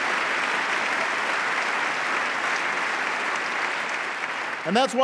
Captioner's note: applause